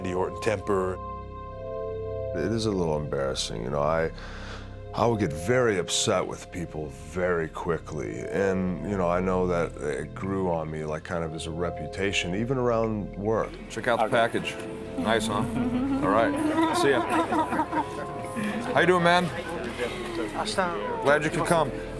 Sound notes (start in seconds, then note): 15.0 laugh